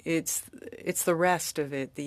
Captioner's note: speaking french